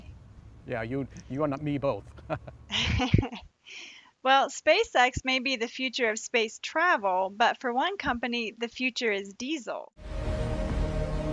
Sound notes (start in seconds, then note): 2.7 laughing